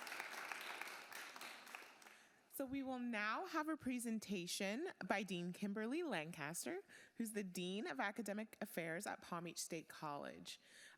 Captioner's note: applause